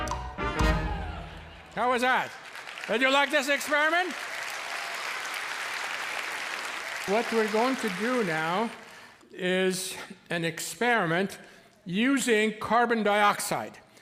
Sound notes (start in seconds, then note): 0.3 audience applauding; 4.8 cheers and applause